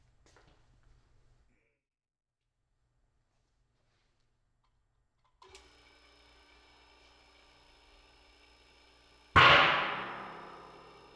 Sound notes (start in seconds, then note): 0.2 faint footsteps; 5.4 pump clicks on; 5.6 mechanical sound of pump; 9.3 ping sound of drum